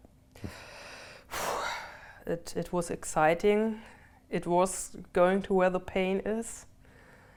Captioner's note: sighs